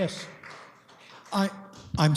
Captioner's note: applause